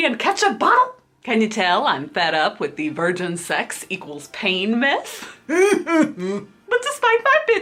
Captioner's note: sigh-growls